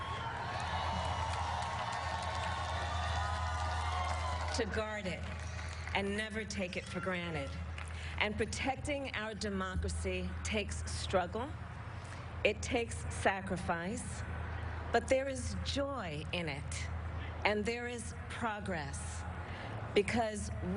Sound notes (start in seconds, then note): 4.5 cheering; 7.4 applause